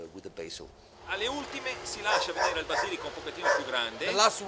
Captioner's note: speaking Italian